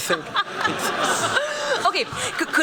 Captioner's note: laughter